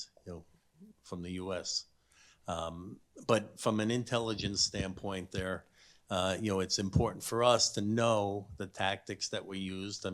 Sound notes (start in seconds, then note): none